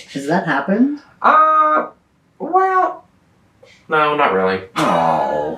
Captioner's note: laughs